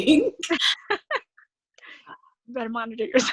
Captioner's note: laughing